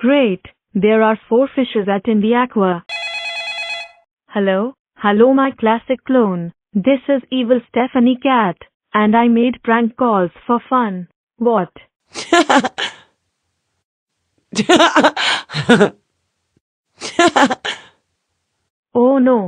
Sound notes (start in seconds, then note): 2.9 phone ringing; 11.9 evil cat laughing